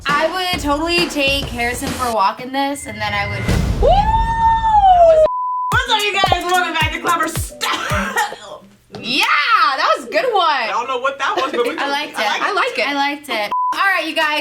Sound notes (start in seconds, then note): 5.2 beep; 7.4 coughs